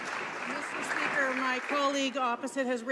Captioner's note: some Applause